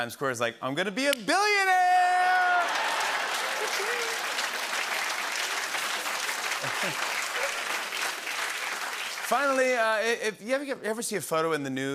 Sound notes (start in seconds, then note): 2.4 laughter and applause